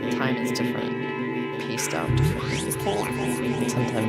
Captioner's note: Odin's voice disintegrates in rhythmic distortion